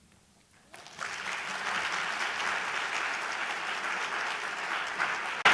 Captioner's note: audience applauding